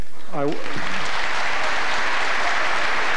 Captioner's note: applause